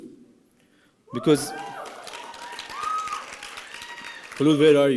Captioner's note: applause and cheering